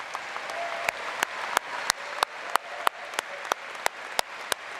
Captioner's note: applause